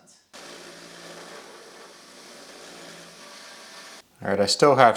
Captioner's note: machine motor hums